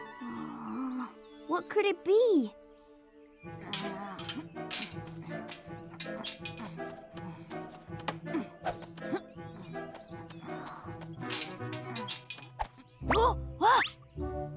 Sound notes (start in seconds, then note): 3.6 metal clanking; 11.0 metal clanking; 13.3 gasps